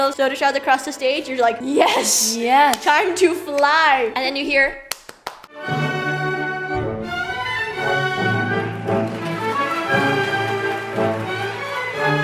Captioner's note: clapclapclapclapclap